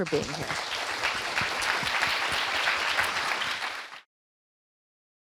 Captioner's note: audience applauds and cheers